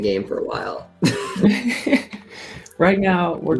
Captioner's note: laughter